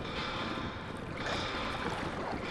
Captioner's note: water lapping